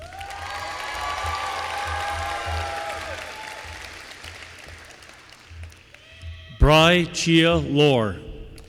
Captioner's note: applause